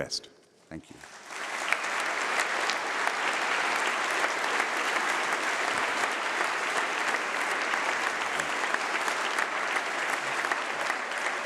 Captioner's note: applause